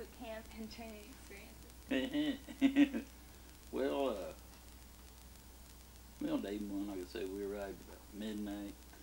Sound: laughs

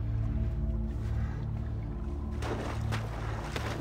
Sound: person breathing

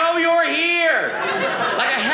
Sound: audience laughing

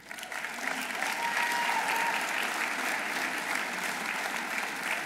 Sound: audience applauding

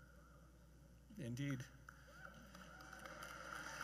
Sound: cheers and Applause

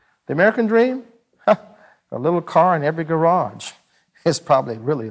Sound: chuckles

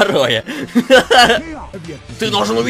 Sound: laugh

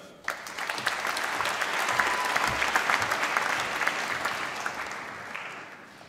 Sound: applause

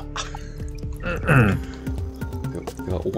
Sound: clears his throat

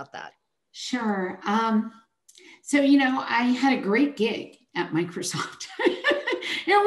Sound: chuckles

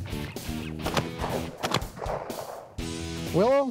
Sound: gunshots

